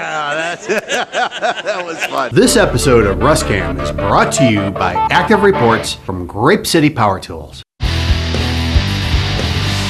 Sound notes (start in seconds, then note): 0.0 laughter